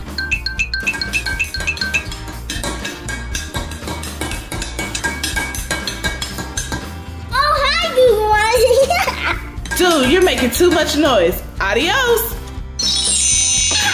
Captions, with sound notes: (loud banging) - Oh hi, Goo Goo Mom! - Dude, you're making too much noise. Adios! (magic sounds)